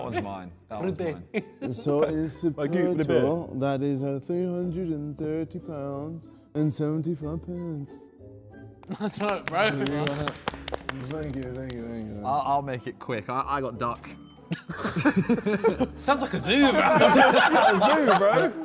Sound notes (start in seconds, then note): 11.7 men clapping